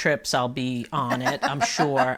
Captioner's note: laughing